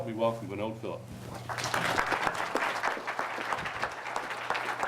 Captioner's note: audience applauds